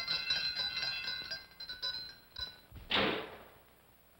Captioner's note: bells stop; loud bang